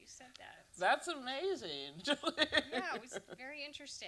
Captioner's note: laughs